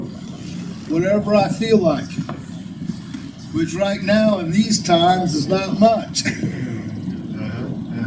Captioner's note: laughter